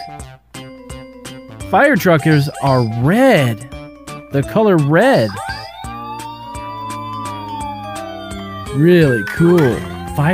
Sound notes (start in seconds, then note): 0.2 playful music; 5.2 firetruck siren